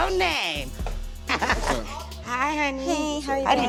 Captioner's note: laughs